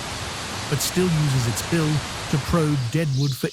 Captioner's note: birds chirping